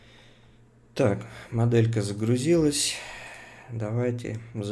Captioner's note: sighs heavily